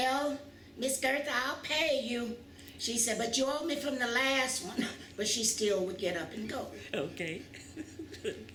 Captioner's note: laughs